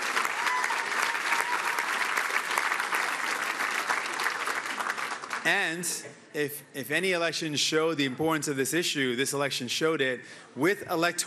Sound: cheering and Applause

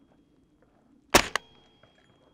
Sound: bang

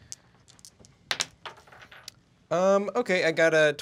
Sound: dice rattle

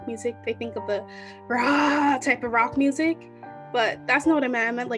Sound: yelling

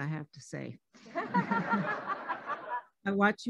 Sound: laughing

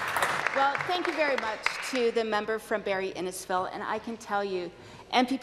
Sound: some Applause

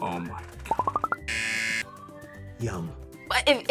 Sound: buzzer

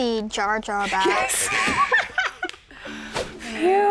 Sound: laughs

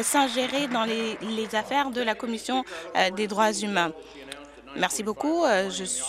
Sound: applause

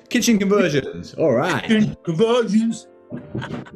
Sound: chants

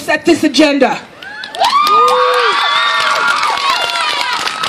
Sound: cheers from crowd

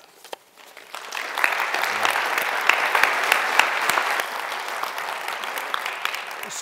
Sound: applause

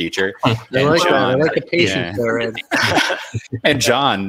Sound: indistinct chatters

